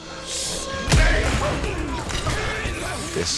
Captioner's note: yelling